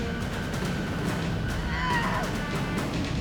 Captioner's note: Riley grunts